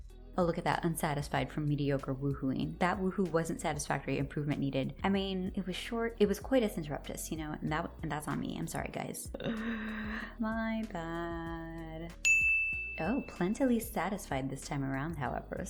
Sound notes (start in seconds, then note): 9.3 sound of dread; 12.2 chime sound effect